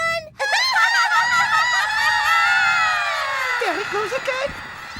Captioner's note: all laughing; laughter echoing